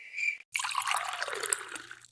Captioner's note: sound of water pouring